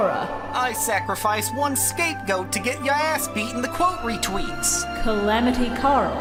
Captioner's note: Joey voice